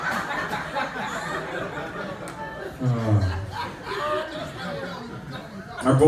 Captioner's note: laughter